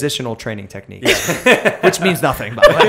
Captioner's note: laughter